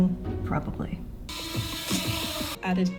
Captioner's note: hellish drone buzzing